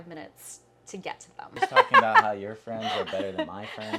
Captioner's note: laughing